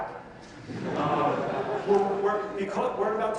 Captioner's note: audience laughs